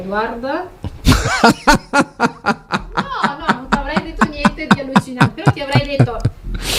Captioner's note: laughs